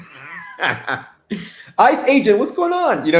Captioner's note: soft laughter